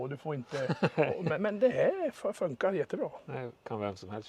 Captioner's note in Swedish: skratt